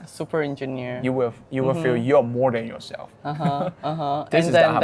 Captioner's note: laughing